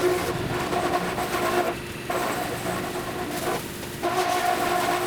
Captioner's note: machinery humming continues